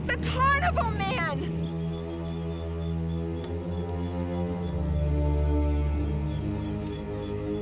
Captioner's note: deep ominous music; crickets chirping